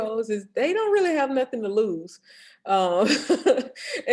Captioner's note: chuckles